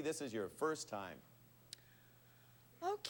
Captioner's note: none